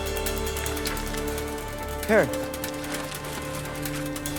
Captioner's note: cash rustling